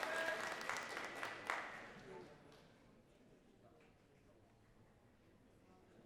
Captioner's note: audience cheering and clapping